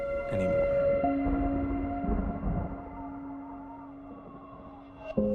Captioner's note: thunder rumbles